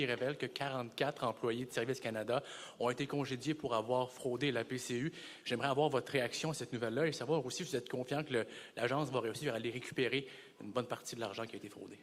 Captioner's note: speaking French